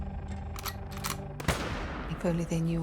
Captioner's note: gunshot blasting